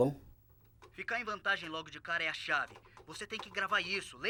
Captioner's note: voiceover